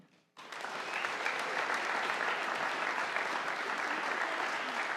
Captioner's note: audience applauding